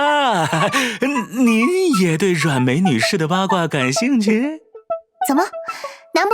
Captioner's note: gulp